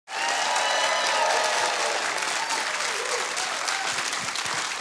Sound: audience applauding

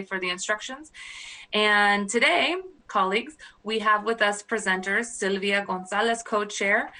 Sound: speaking spanish

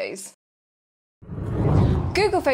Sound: screen whooshing

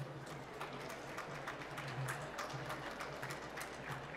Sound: applause

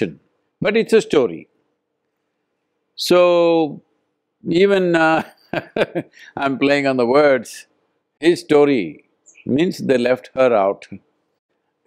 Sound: laughs

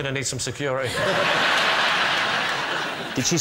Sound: laughter

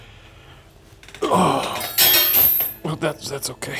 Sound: metal rattling

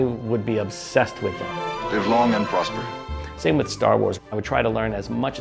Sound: music volume increases; music volume lowers; voice of actor Leonard Nemoy

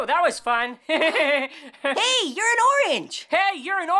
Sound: laughs

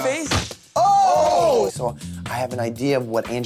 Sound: Mike and Vinny exclaiming

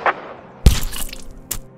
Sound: squelching sound

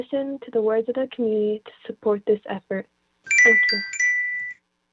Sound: chime

